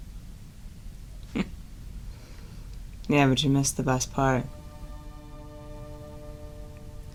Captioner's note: chuckles